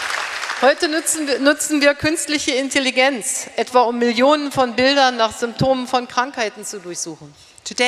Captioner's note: speaking in German